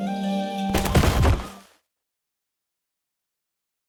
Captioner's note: thump